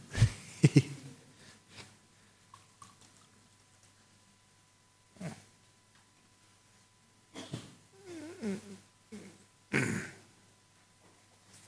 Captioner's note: laugher